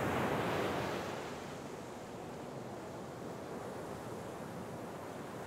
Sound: wave sounds

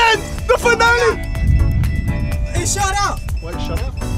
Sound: boat beeping

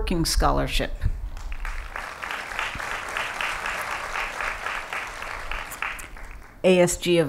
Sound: applause

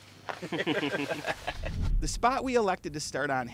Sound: laughter

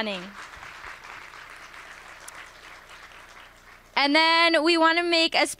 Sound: applause

